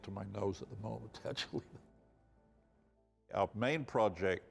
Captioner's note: laughing